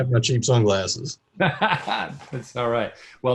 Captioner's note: laughs